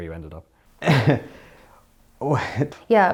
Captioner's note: laughs